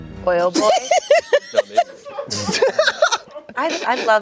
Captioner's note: laughing